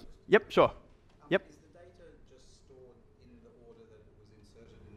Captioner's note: voiceover